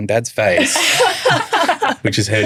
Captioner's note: laughing